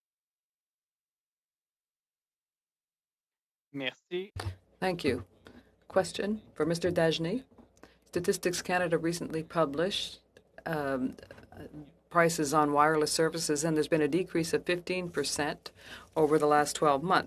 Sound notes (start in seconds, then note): 8.3 speaking French